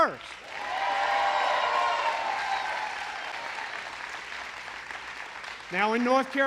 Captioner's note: applause